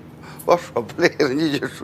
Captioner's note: in Mandarin